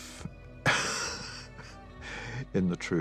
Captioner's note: chuckles